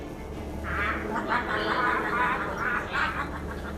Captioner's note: laughter